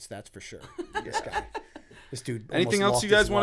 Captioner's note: laughter